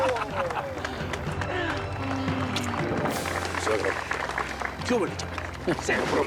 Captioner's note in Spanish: risas